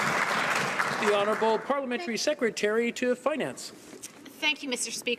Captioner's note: some Applause